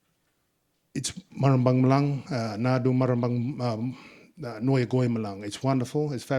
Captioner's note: speaking in Ngunnawal